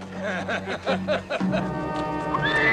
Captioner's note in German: lachen